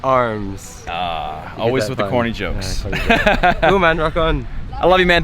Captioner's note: laughs